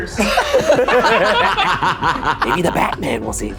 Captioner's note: laughing